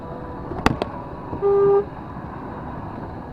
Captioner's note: horns